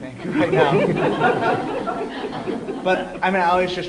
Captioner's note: laughter